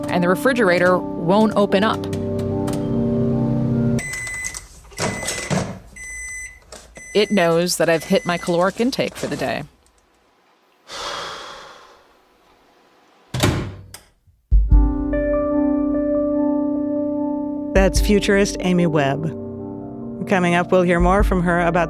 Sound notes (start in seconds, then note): 4.1 microwave beeping; 10.8 sighing; 14.7 soft thoughtful music